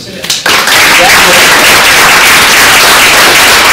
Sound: applause

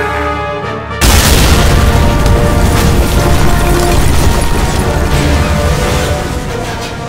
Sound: ka boooom!

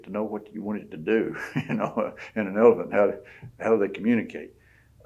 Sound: laughs

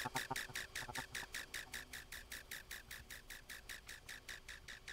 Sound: the vowel sound fades out

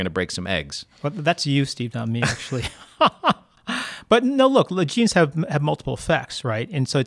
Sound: laughs

